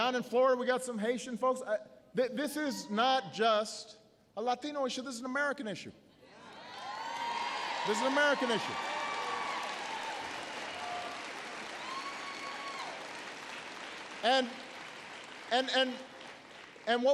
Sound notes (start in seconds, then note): 7.3 applause